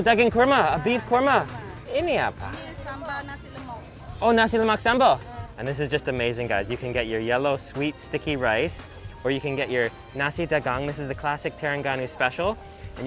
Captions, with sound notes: Oh, beef korma. (speaks foreign language) And this is just amazing, guys. You can get your yellow, sweet sticky rice, or you can get your nasi dagang. This is the classic Terengganu special.